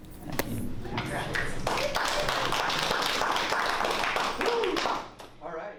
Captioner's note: applause